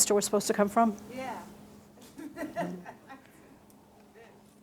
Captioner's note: laughing